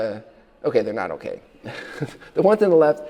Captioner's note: chuckles